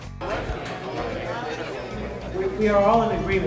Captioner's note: crowd chatting